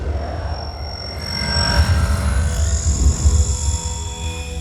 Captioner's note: digital whirring